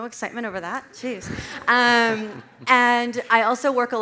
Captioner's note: audience laughs